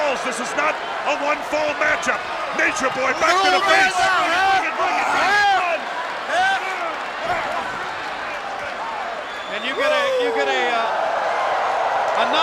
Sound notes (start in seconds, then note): 5.1 wrestlers grunting